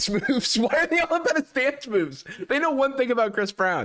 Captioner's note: laughing